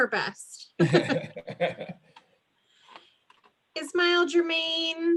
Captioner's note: laughter